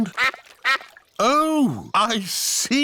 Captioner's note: quacking